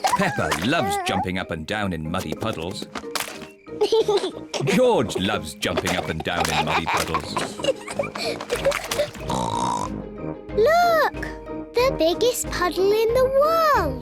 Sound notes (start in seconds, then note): 0.0 giggles; 3.8 giggles; 7.6 giggles, snorts